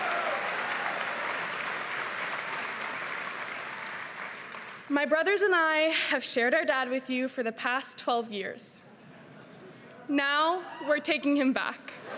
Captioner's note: cheering and applause